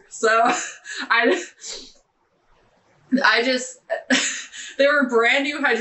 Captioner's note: laughing